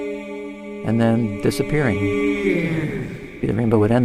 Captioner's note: recorded Voiceover